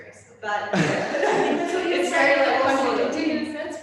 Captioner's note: chuckling